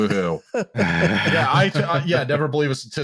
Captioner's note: laughter